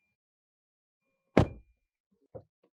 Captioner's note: door Thud